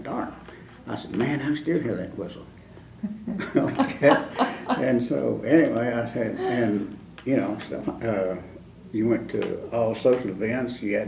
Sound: laughter

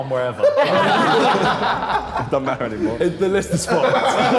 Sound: all laughing

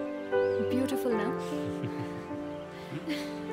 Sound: Shorya chukles

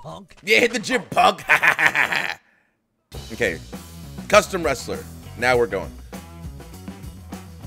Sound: laugh

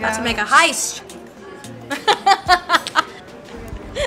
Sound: laughter

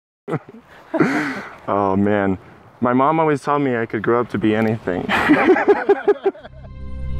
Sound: laughter

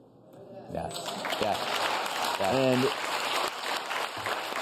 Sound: audience claps

